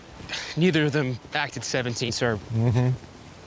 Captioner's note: clears throat